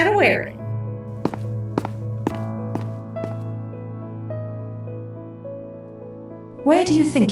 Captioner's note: footsteps and flying hum